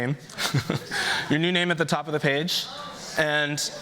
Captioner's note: chuckles